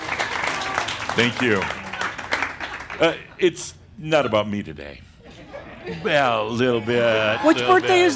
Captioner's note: laughter and more applause as he blows out the candles; more chuckles